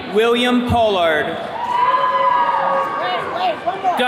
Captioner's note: attendees cheering